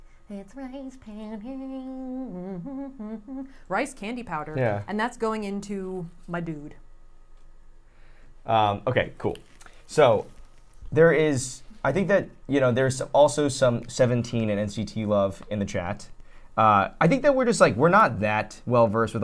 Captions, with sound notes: It's rice powder. (humming) Rice candy powder. And that's going into my dude. - Okay, cool. So there is, I think that, you know there's also some Seventeen and NCT love in the chat. I think that we're just like, we're not that well versed